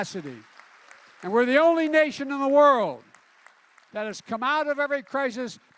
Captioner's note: applause